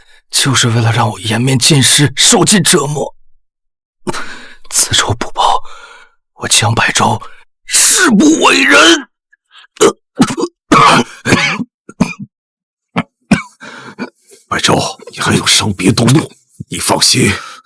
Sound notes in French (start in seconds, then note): 10.1 Tousse